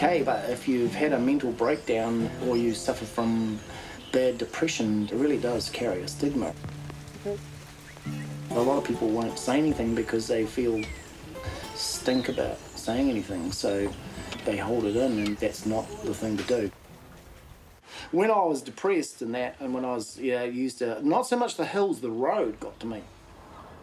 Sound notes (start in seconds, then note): 7.7 whistles